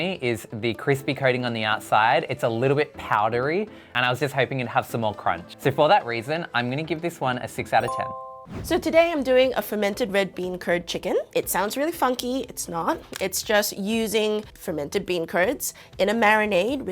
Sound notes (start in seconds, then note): 7.8 bell dings; 8.4 air whooshing